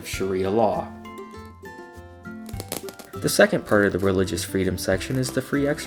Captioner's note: styrofoam popping